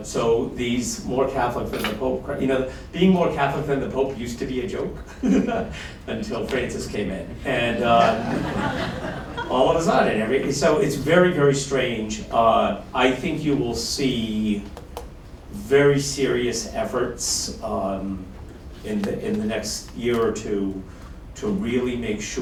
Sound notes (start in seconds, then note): 5.0 laughs; 7.7 laughter